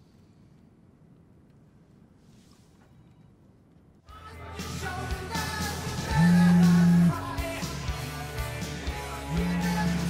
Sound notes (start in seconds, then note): 4.1 upbeat rock music; 6.1 phone vibrates